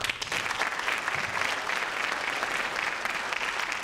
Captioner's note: crowd applaud